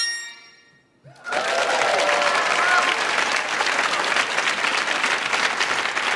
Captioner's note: audience applauds